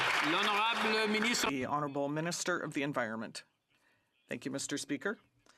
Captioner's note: some Applause